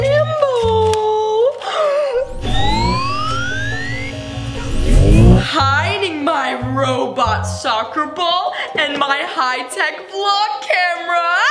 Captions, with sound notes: (beep) Hiding my robot soccer ball and my high tech vlog camera.